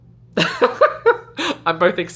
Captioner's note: laughing